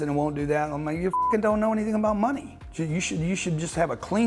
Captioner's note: beep